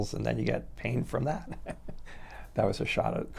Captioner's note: chuckles